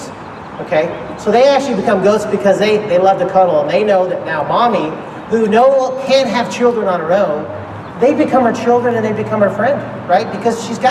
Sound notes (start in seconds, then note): none